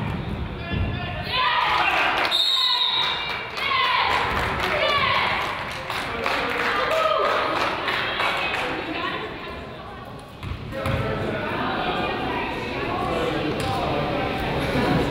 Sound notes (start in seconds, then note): 2.3 whistle blows; 4.9 crowd applauds and cheers